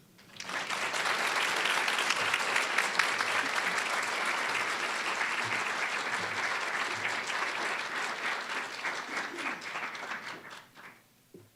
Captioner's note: applause